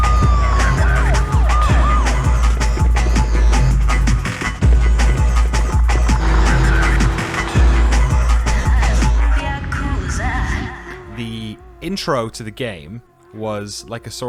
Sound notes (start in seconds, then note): 0.2 sirens blaring; 5.3 car engine roaring